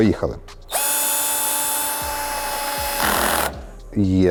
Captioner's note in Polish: dźwięk wkrętarki